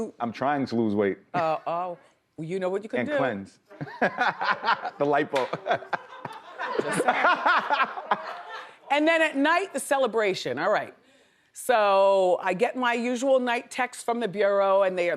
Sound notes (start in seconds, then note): 3.8 laughs